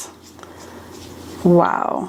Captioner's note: brush whirring